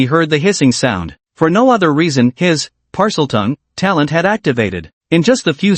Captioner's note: Parseltongue